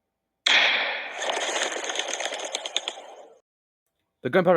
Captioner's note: explosion, followed by a flock of birds flying away